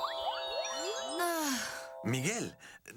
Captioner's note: sigh